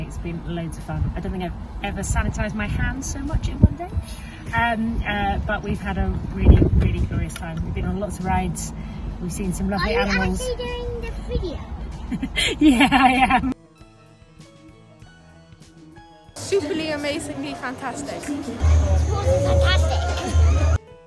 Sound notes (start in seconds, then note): 12.1 laughs